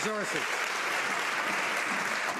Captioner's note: some Applause